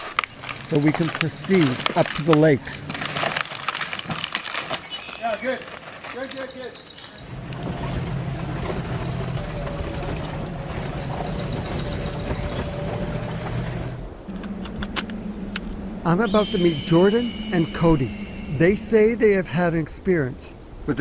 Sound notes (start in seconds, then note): 3.3 tree cracking